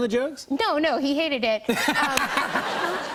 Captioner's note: laughter